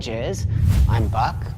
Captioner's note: whoosh air